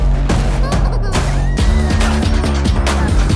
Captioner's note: creature squeaking; upbeat instrumental music continues